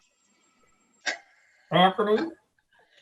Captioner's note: laughing